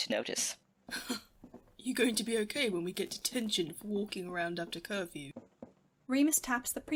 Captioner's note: huffs out a laugh